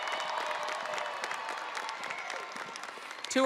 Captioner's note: audience cheering and applauding